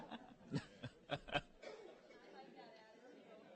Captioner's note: laughter